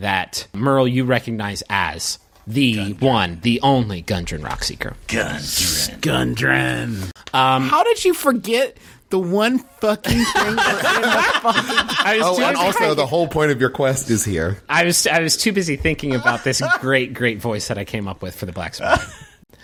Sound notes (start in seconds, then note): 5.0 Merle and Taako in gritty voices; 10.0 laughter